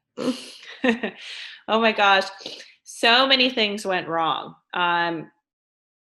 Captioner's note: chuckles